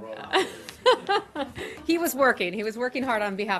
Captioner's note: laughter